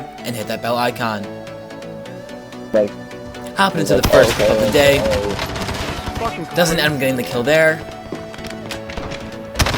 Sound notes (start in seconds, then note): 2.0 upbeat music; 5.5 gun firing